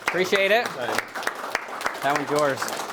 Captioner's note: audience applauding